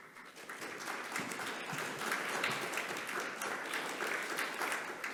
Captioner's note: audience applauding